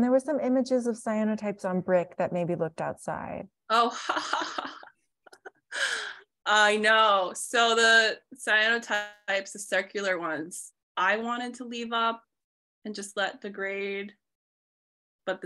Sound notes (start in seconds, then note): 5.2 laughs